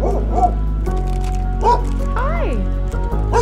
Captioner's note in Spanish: Ladridos; Ladridos